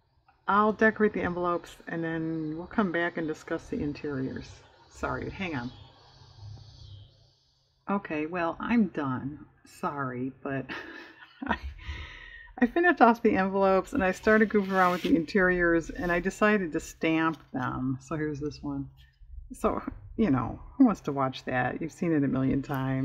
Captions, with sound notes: i'll decorate the envelopes, and then we'll come back and discuss the interiors sorry, hang on okay well i'm done, sorry (laughs), but i finished off the envelopes, and i started goofing around with the interiors, and i decided to stamp them-- so here's this one-- so you know who wants to watch that? you've seen it a million times